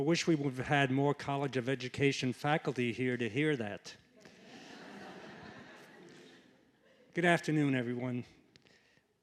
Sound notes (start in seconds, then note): 4.2 laughter